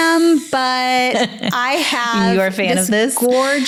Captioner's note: laughs